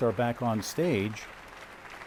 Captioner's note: applause